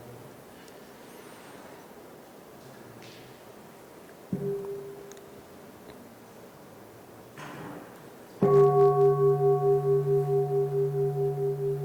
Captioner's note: 3 Bells